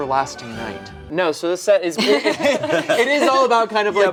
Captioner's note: group laughing